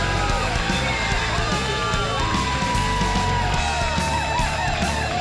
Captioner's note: audience cheers